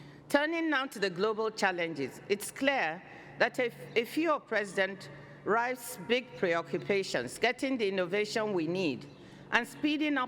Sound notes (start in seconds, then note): none